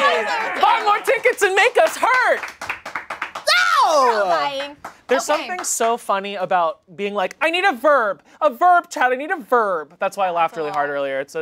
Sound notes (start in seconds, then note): 3.4 exclaiming